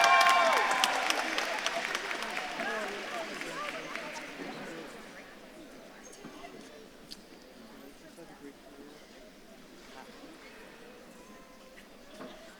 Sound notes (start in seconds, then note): 0.0 audience claps and cheers; 5.1 audience murmuring